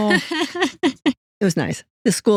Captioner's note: both Laughing